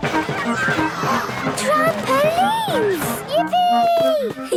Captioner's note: George giggles; gasps; giggling